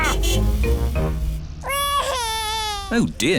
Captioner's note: crying